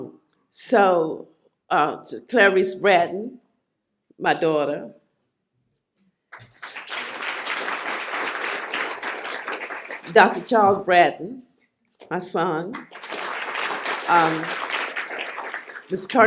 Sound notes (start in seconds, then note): 6.3 applause; 12.7 applause